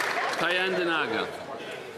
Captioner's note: some Applause